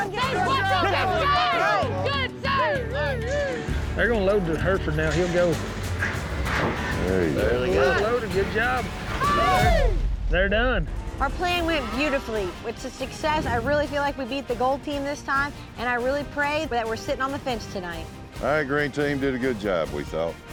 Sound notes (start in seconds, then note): 0.0 overlapping chatter; 9.1 cheering